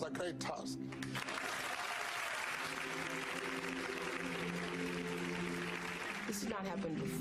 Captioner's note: applauding